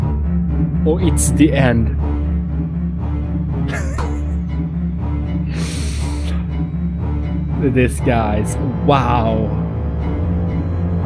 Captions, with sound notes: OH! It's the end! (wheezing) This guys wow